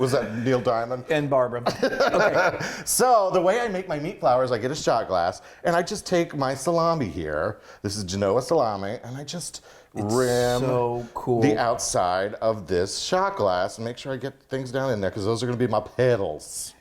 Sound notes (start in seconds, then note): 1.9 laughs